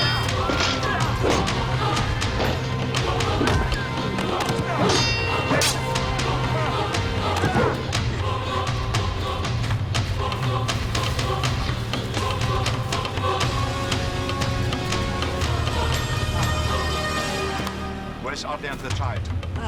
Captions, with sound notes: (metal clanging) (thuds) (metal clanging) (thud) (running through brush) - Where's Otli and the child?